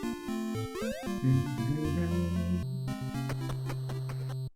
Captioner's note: humming along